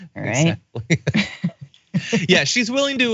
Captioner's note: laugh